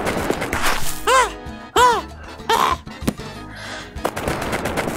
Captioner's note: very fast running; panting; very fast running